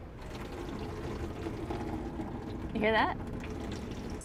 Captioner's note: water running into the gray tank